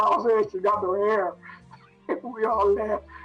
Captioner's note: laughs